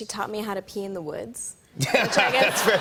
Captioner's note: laughter